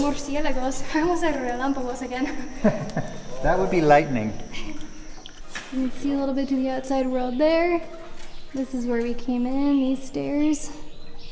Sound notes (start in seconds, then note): 2.1 laughs